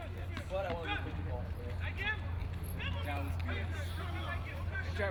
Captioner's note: field chatter